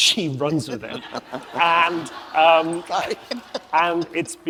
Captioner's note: audience laughs